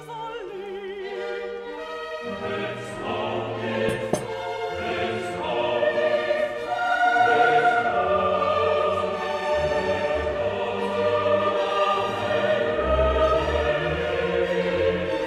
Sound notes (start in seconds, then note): 3.8 puts down cup